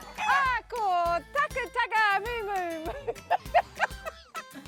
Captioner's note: laughs